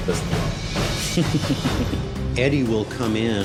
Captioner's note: laughs